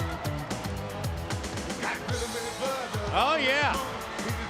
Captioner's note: crowd cheering